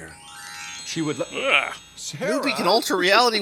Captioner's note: "magical" noise